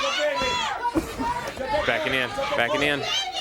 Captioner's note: crowd chatter